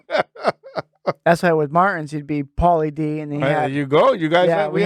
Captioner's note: laughing